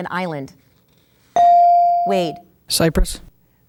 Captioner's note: ding